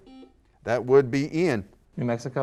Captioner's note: buzzer